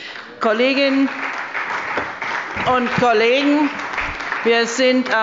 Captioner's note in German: Beifall bei der CDU und dem BÜNDNIS 90/DIE GRÜNEN